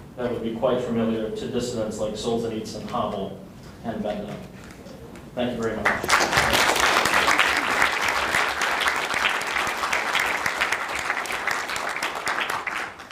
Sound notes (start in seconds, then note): 5.8 audience applause